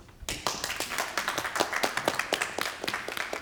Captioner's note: people clap